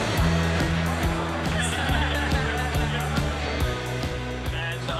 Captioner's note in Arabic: كلاهما يضحك